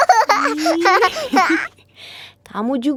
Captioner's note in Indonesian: tertawa